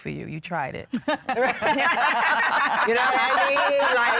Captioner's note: laughter